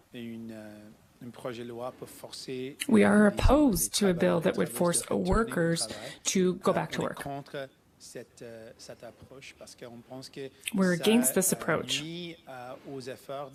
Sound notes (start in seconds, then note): 3.8 speaking French